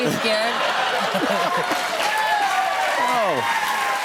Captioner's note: cheers and applause